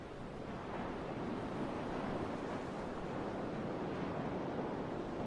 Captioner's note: waves rumbling